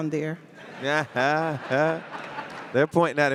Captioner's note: audience laughing